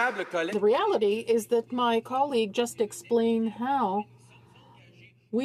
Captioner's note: some Applause